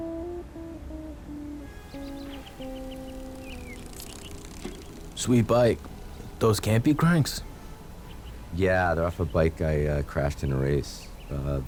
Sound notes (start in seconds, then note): 3.8 ήχος ποδηλάτου; 3.8 τιτιβίσματα πουλιών